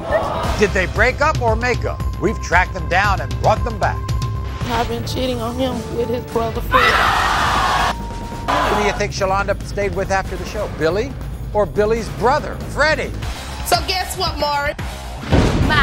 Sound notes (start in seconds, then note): 6.7 audience screaming